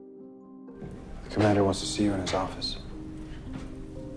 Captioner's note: voiceover